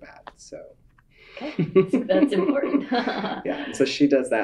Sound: laughter

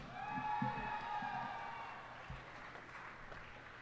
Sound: cheers and applause

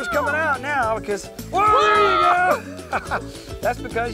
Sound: laughter

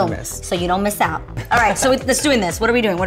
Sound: laughs

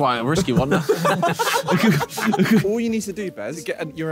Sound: all laughing

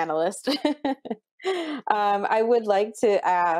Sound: laughs

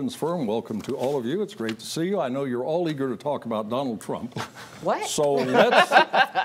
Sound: laughter

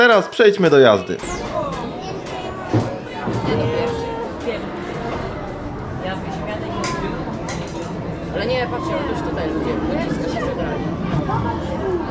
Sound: street noise

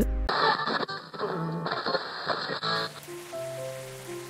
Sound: channel change static

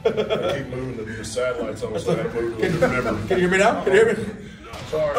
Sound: laugh

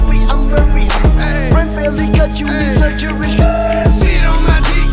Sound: skrrt!

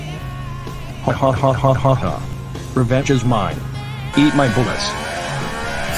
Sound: laughing

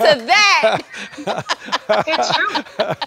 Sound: doctors laughing

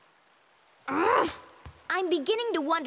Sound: grunting

